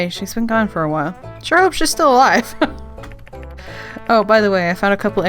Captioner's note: laughs